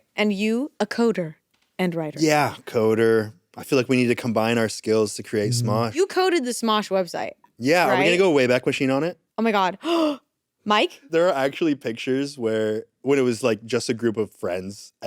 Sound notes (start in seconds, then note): 10.1 gasps